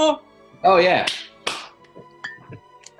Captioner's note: clapping